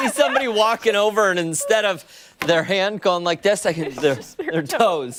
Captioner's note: laughter